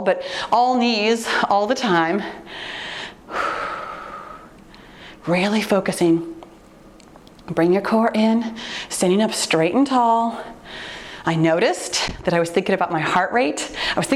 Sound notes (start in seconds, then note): 2.5 exhales deeply